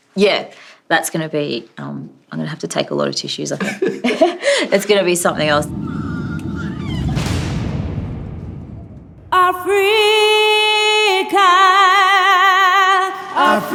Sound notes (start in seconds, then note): 3.6 chuckling